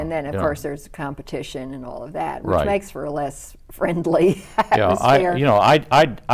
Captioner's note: laughs